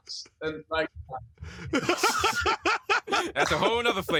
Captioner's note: laughter